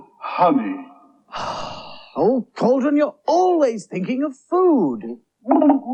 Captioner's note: sighs